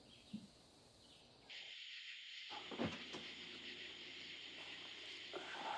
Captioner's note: outdoors din